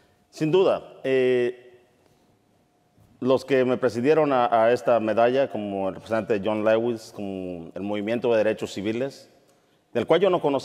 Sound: speaking in Spanish

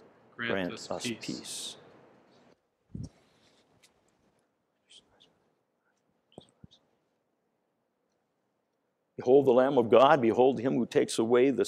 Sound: priest whispering

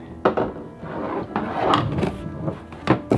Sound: bangs

